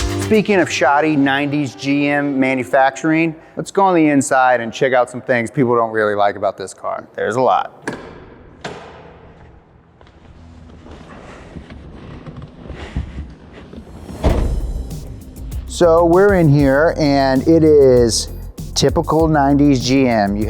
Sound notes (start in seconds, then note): 8.0 car door clicks open; 10.0 leather creaking; 11.1 car door slams shut